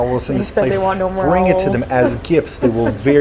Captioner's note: laughs